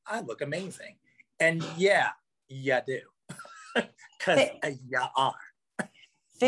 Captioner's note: laughs